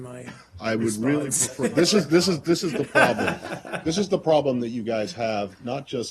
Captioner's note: laughter